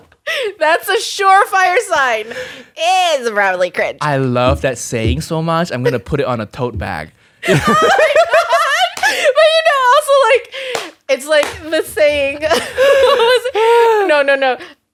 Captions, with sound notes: That's a sure fire sign it's probably cringe. - "I love that saying so much. I'm gonna put it on a tote bag." (both laughing) - Also it's like the saying no, no, no,